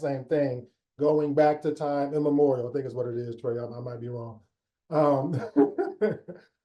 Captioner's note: laughs